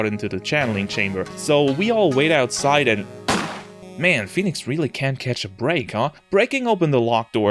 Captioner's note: gunshot